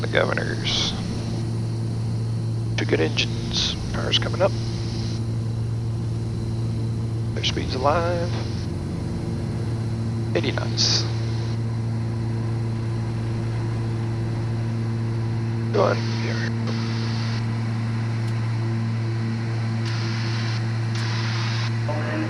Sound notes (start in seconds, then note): 10.8 engine accelerating